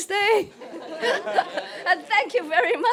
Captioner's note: laughter